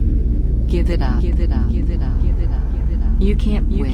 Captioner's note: voice echoing